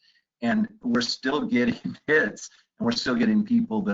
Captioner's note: chuckles